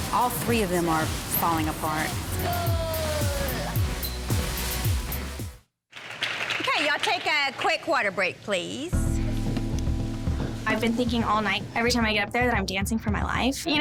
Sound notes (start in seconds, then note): 5.9 clapping; 8.9 somber music